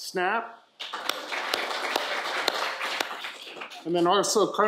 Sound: audience applauding

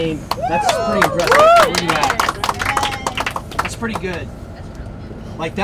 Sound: applause

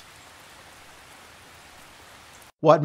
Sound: rain sounds

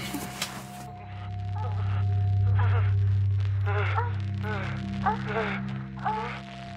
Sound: music in crescendo continues; moans

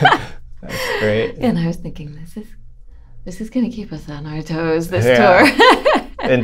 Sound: laughter

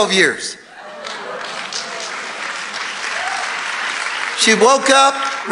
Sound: congregation applauding

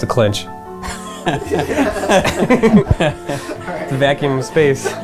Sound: laughter

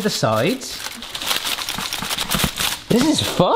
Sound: aluminium foil crackling

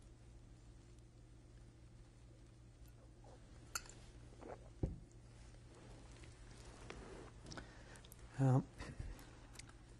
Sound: pauses for 3 seconds; drinks

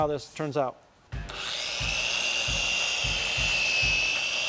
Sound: buzzing

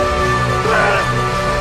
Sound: Four screams incoherently

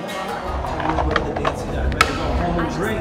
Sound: skateboard clatters

